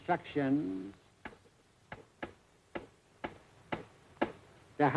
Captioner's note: tapping table